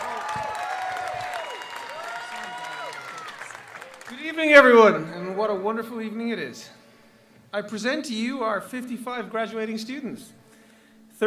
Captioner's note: applause